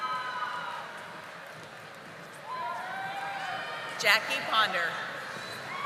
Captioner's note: audience applauding